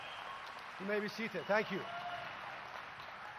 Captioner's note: applause